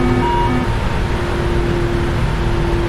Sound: master Warning Siren stops

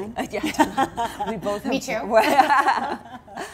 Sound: laughter

